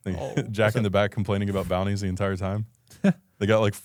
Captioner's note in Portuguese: risos